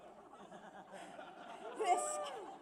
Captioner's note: laughter